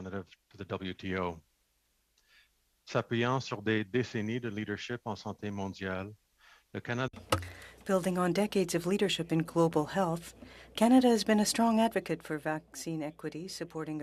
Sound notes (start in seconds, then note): 7.4 speaking French